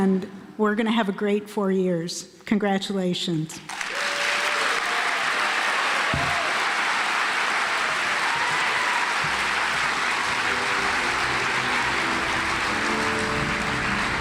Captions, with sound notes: And we're going to have a great four years. Congratulations. (audience applauds) (happy classical music)